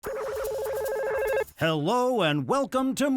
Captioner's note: phone ringing